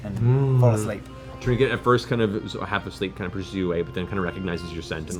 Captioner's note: bear groaning